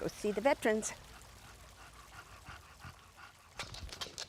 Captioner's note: dog panting